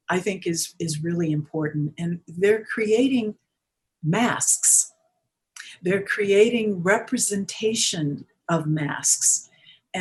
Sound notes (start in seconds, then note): none